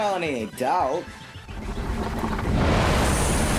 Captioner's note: rumbling